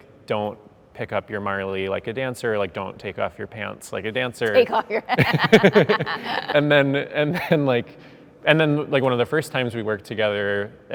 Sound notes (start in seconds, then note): 5.0 laughs